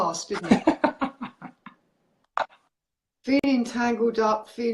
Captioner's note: laughs